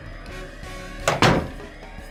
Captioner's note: door closes